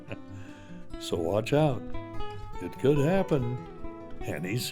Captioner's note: chuckles